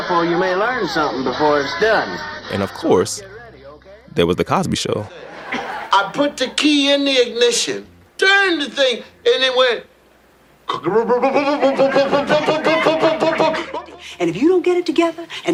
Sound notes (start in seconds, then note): 5.0 soundbite of tv show, "the cosby show"; 10.3 imitating car dying